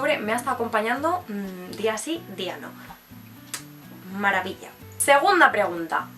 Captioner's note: kiss